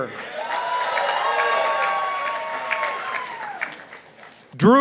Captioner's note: participants applauding